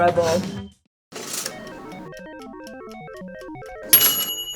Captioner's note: appliance pings; timer rings